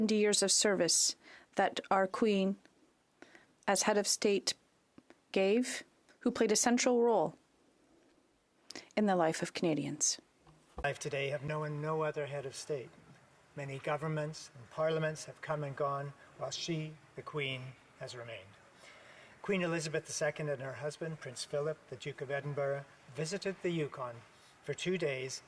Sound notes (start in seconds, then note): 5.8 speaking French